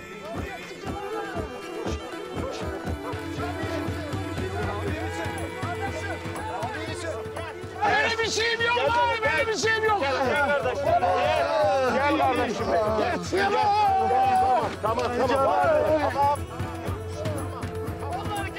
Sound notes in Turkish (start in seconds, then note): 13.3 Ağlıyor